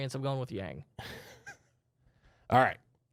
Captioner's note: softly chuckling